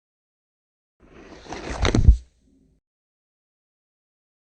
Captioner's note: book closes